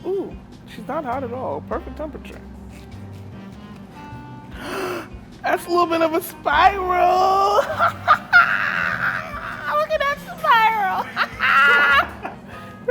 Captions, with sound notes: Ooh she's not hot at all, perfect temperature. (gasps) that's a little bit of a spiral (laughs) look at that spiral (laughs)